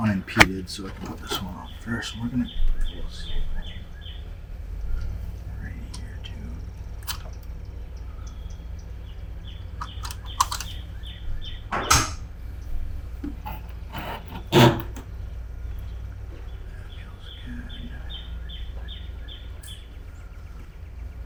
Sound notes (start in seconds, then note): 7.3 bird twittering; 9.8 sealant gun clicking; 11.9 sealant gun clanking; 13.9 stone slab scraping; 18.3 bird twittering